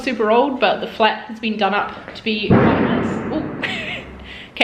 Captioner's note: banging